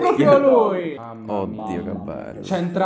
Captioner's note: all moaning in italian nerd